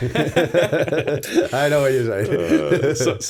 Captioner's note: chuckle